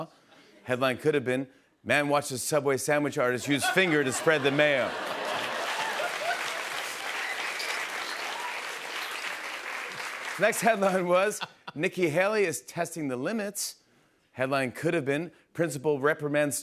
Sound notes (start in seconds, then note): 3.4 laughter; 7.1 applause